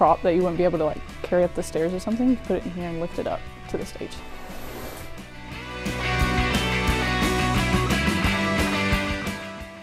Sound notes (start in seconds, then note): 4.1 curtains close; 6.0 upbeat music